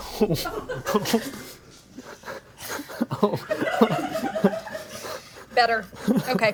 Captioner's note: chuckling